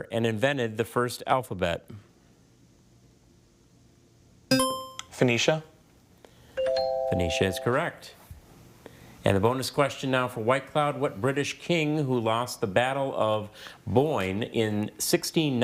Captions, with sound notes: and invented the first alphabet? (buzzer chimes) - Phoenicia. (scoreboard dings) - Fania is correct. And the bonus question now for White Cloud, what British king who lost the battle of Boyne in 1690